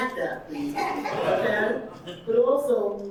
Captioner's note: audience laughing